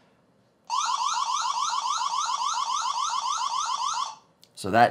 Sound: loud siren noises

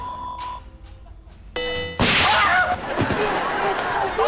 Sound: screaming

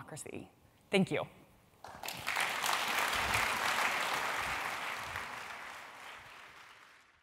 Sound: applause

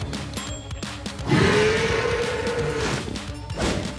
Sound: bellowing

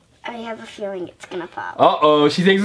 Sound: voiceover

